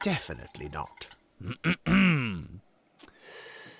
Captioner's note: clears his throat